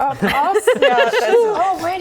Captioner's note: laughing